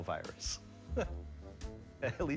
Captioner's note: laughs